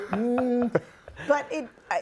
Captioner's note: laughing